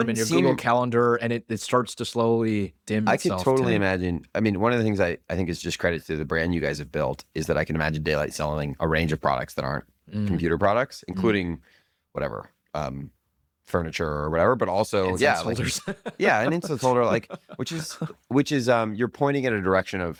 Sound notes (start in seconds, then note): 15.1 laughs